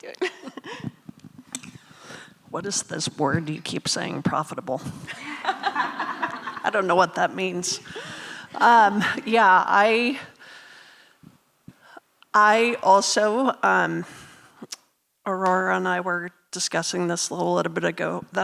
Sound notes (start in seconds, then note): 0.1 laughing; 5.1 laughing